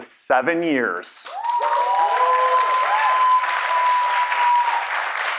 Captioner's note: audience cheering; applause